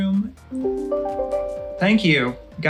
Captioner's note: chime rings